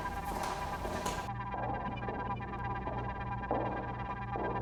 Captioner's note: high-heeled footsteps